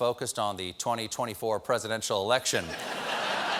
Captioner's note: laughter